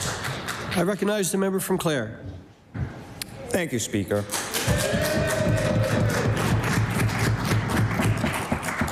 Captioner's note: applause